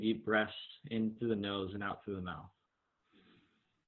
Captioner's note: deep breath